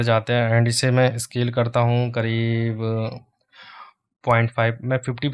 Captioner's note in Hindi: गहरी सांस लेने की आवाज़